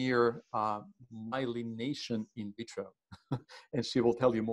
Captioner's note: laughing